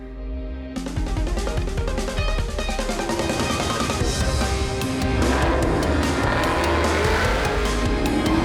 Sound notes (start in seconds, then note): 0.0 upbeat music; 2.4 engines revving; 2.5 upbeat music